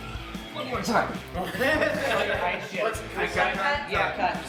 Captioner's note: everyone laughs